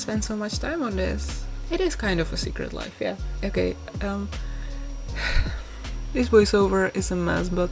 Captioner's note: sighs